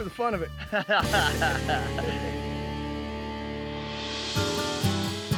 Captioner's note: laughing